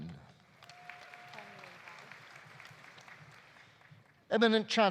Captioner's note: audience applauding